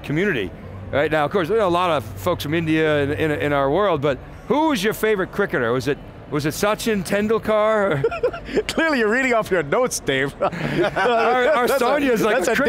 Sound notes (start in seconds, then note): 7.8 laughs